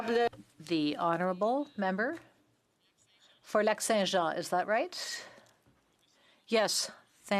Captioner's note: speaking French